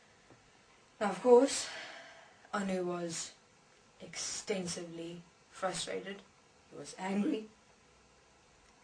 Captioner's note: sigh